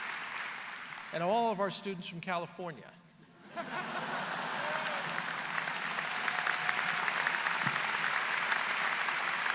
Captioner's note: laughter; applause